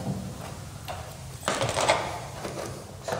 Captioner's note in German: Scheppern